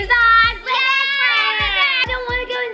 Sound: screaming

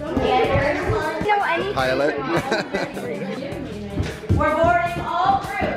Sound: laughs

